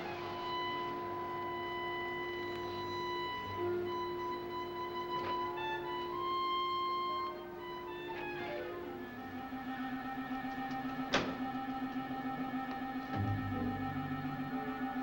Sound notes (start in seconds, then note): 0.2 tense music; 11.0 door slamming